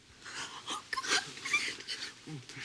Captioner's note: crying